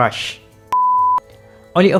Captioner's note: beep